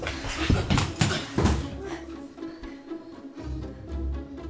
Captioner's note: man thuds